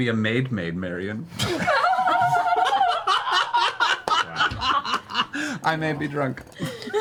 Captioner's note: all laugh